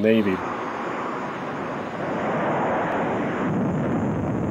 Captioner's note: airplane engine roars